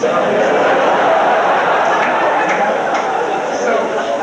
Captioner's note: crowd laughs